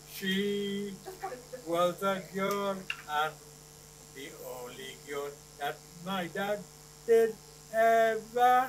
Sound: laughter

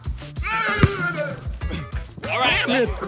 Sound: yells

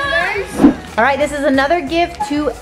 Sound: air whooshing

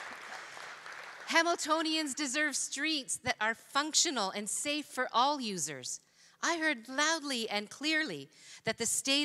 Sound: applause

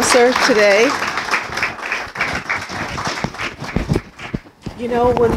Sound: applause

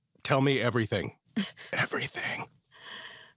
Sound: whispers

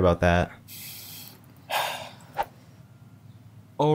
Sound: worried deep breath

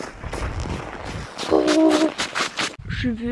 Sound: footsteps in the snow

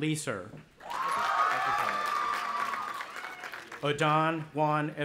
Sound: audience applauding and cheering

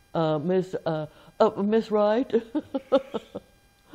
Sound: chuckle

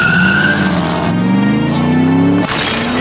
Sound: tires squealing

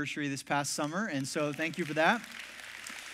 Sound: congregation claps

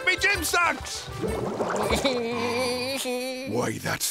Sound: SpongeBob giggling

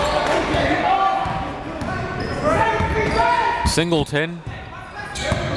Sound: crowds cheering and yelling

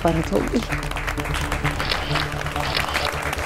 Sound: clapping

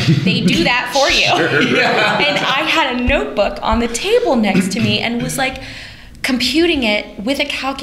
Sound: laughter

